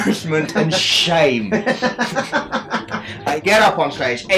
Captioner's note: laughs